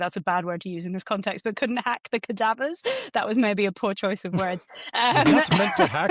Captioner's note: laughter